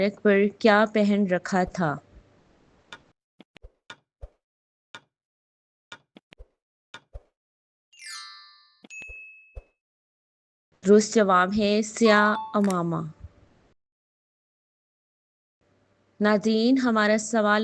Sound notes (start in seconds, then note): 2.9 timer running